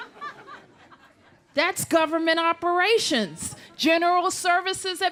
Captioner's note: laughter